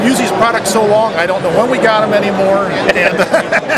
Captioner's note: laughs